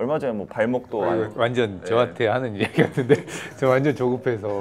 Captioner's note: laughter